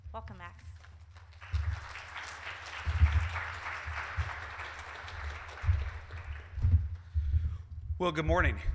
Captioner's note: clapping